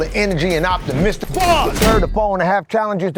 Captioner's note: door slams